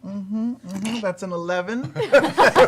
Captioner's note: laughter